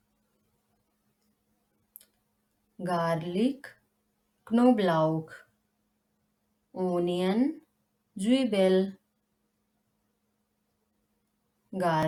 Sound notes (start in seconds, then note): 7.4 in German: Zwiebel